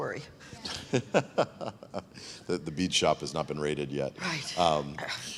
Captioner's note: laughs